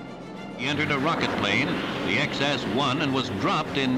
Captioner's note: radio voice